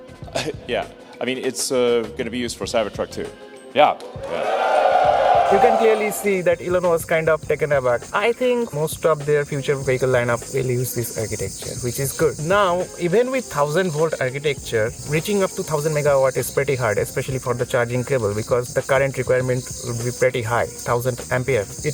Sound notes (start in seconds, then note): 0.3 nervous Cough; 4.0 crowd cheering